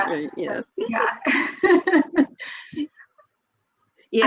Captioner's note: laughs